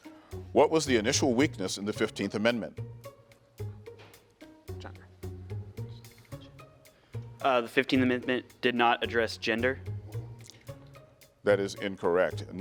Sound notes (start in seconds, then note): 2.7 gentle music; 5.2 contestants whisper; 9.9 gentle music